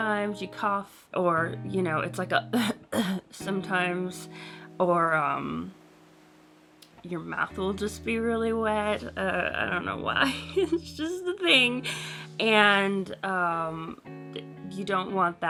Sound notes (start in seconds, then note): 2.6 gaspy, coughy sound; 10.2 laughs